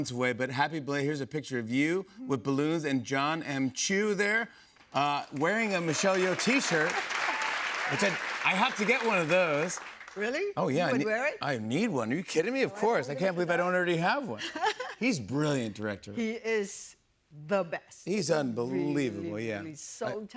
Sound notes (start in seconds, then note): 5.2 cheers and applause